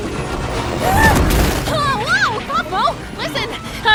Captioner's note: gasps